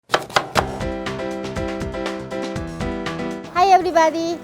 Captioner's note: chopping; upbeat music